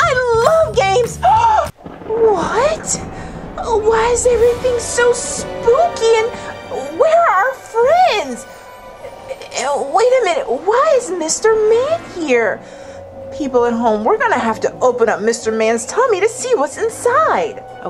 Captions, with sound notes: I love games. (gasps) (thunder clapping) What? Why is everything so spooky? And where are our friends? Wait a minute, why is Mr. Man here? People at home, we're going to have to open up Mr. Man's tummy to see what's inside.